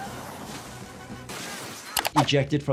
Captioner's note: car crashes